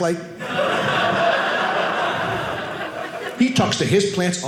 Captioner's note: audience laughing